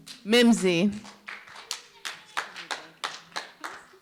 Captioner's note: scattered clapping